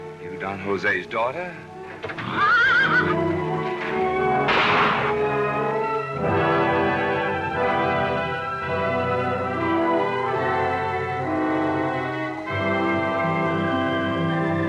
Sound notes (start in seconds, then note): 1.9 horse neighs; 4.5 gunshot; 6.3 classical music